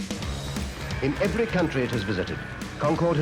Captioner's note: radio voice